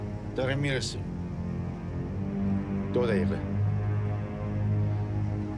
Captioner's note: Assad speaking in foreign language